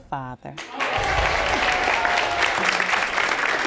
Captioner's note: audience applauding